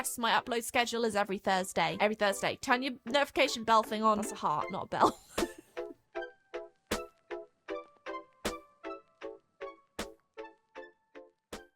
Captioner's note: laughs